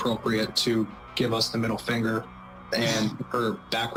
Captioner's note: chuckles